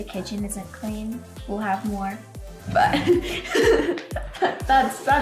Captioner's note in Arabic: يضحك